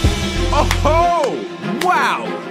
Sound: clapping

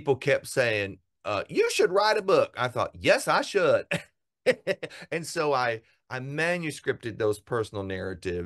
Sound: laugh

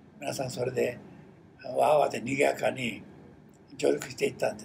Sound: foreign language

